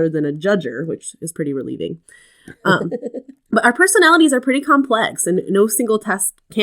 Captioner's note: laugh